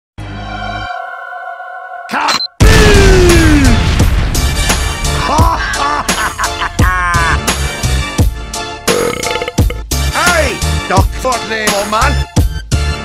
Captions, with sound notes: Ka-BOOOOOM! Hohohahaha! *burp* Aye! Dr. Dremoman, Wuh?